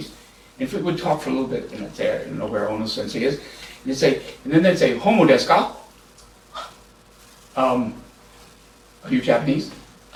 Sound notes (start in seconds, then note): 5.6 japanese